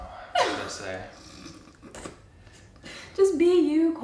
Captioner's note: snorting giggles